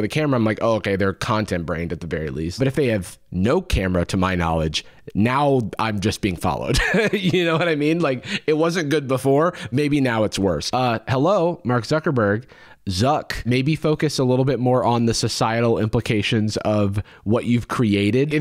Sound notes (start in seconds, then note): 6.7 chuckles